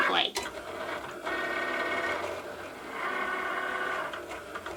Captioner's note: machine whirls